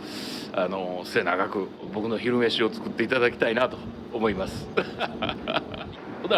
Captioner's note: laughs